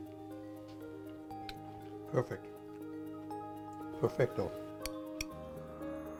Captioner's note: spoon ticking